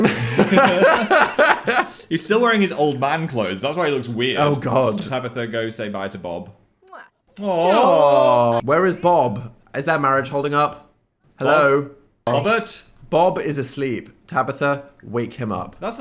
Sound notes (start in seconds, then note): 0.0 both laughing; 7.6 both coo